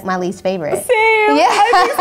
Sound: laughing

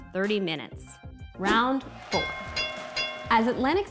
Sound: bell ringing

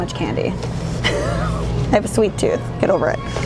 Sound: laughing

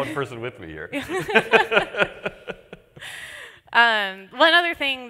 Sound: laughter

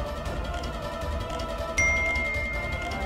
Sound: phone chimes

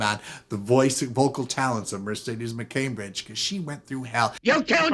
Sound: a cacophony of argument

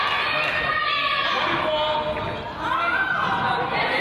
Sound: claps

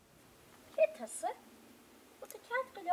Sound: speaking Gaelic

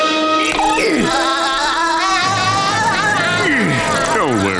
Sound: laughing

